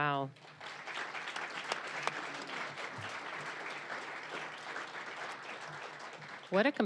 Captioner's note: applause